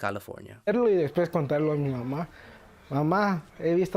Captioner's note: speaking Spanish